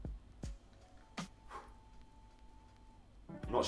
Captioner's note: loud blowing